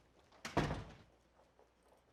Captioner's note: door thuds